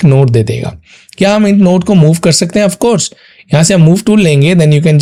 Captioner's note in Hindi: नाक से की जाने वाली आवाज़